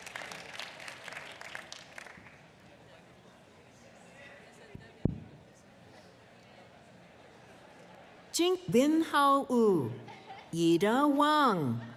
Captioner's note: applause